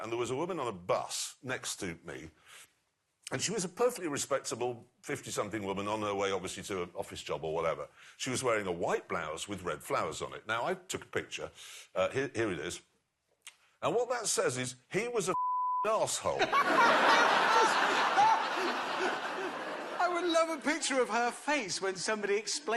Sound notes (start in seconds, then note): 16.3 laughter